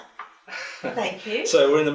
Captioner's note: laughs